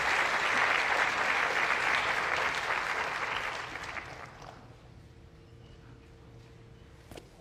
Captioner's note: applause